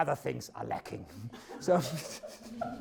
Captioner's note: laughs; audience laughs